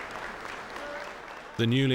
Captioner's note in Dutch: publiek applaudisseert